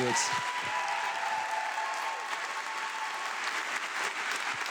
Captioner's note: audience applauding